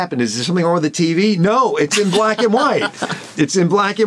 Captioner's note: laughs